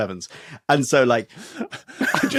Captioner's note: crack up